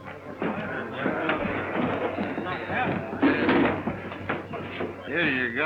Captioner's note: crowd mumbling